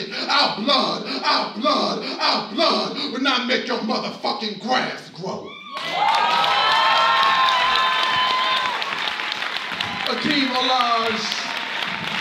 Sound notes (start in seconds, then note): 5.6 audience cheers and applauds